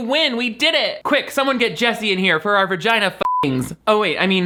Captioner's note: beep